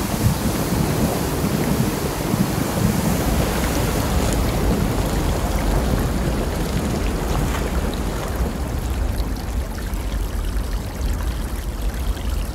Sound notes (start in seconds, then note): 0.2 water splashing; 5.1 water flowing; 9.9 water flowing